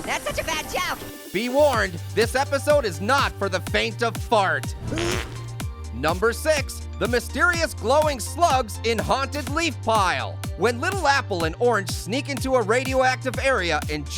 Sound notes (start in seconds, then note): 4.8 clown farts